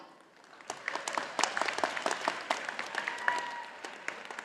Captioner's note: audience applauding